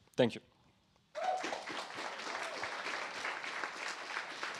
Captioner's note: applause